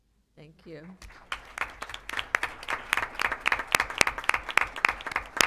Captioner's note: applause